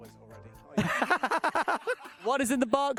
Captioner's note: laughs